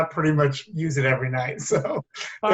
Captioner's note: brief laughter